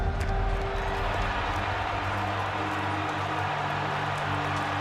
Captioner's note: cheering